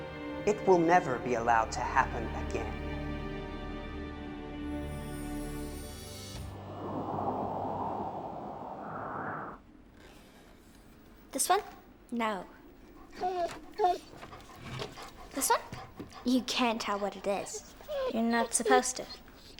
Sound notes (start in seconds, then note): 6.5 wind blows; 12.9 dog whimpers